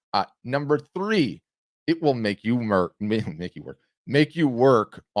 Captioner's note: chuckles